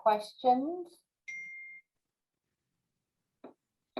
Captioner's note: beeping